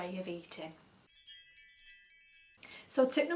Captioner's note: tinkling bell sound